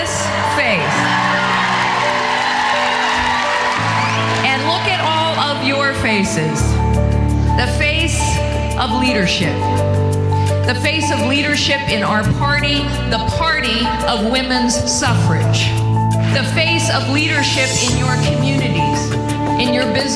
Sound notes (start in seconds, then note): 0.0 audience applauding